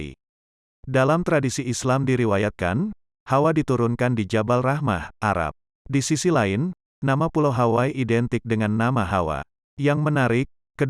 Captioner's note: Arabic